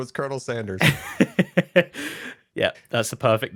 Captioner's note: laughs